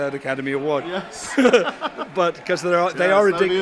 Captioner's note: chuckles